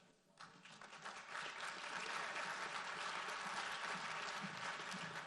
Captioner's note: audience applauds